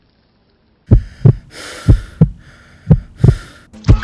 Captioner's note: heart beating